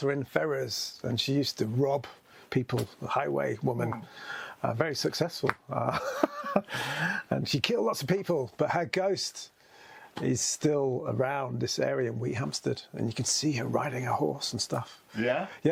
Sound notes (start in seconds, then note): 5.9 laughs